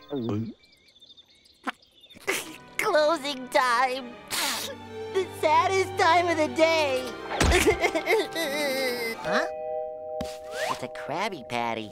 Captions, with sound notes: Closing time... [sniffling] The saddest time of the day! [sobbing] Huh? It's a Krabby Patty.